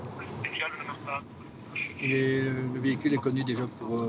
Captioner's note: French spoken audio